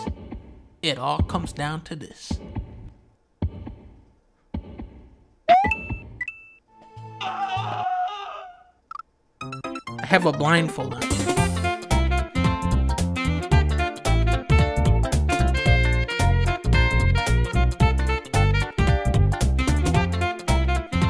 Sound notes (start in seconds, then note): 0.0 heartbeats; 2.3 heartbeats; 7.1 weird scream sfx